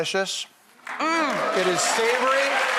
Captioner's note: audience applause